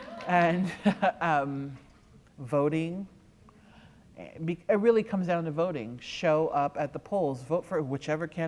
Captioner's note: applause